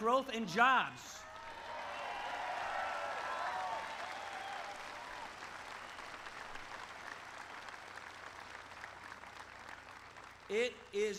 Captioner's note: applause